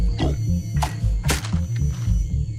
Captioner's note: branch clunks; scary music